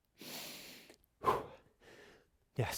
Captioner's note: breathes deeply